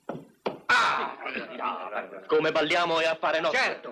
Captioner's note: groaning, muttering